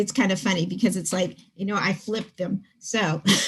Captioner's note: laughs